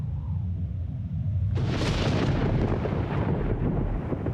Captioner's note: thunder rumbles